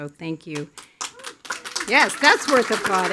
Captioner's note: attendees applauding